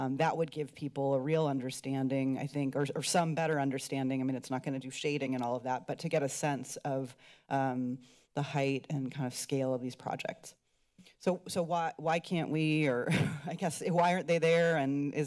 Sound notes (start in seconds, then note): 13.0 chuckles